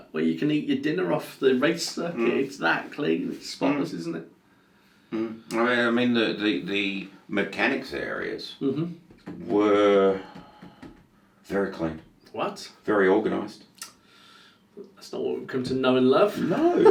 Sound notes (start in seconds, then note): 10.3 fingers thudding; 16.3 laughing